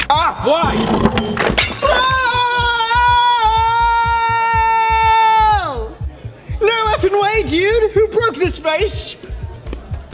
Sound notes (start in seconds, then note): 0.1 camera shutters snapping; 0.9 vase shattering; 1.8 Roman screams